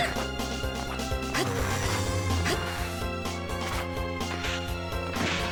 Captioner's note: laugh